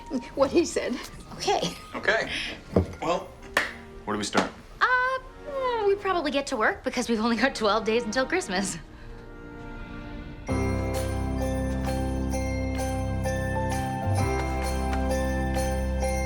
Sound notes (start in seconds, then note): 10.2 upbeat festive music; 10.5 bells jingling